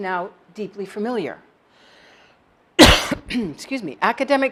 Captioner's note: cough